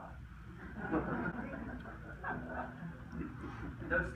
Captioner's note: crowd laughs